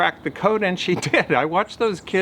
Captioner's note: chuckles